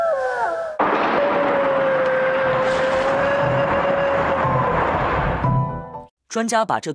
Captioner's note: A strange howl